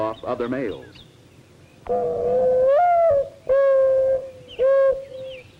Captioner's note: mourning dove call